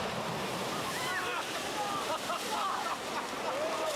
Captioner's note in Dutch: man lacht